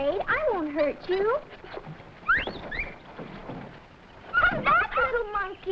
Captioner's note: monkey chattering